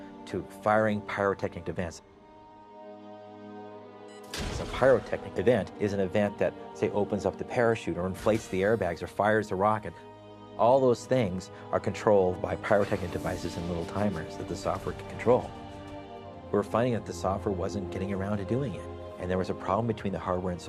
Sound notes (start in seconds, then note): 4.1 beep sound; 4.3 bang